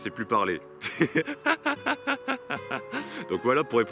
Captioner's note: laughs